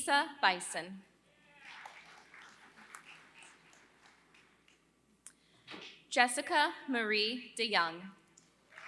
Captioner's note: applause; applause